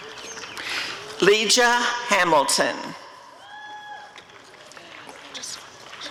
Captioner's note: applause and cheering